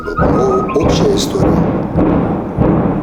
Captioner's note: the noise of shots